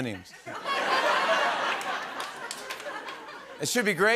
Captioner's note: laughter